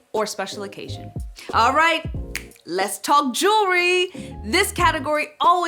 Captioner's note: fingers snap